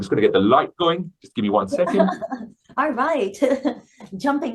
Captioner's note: laughing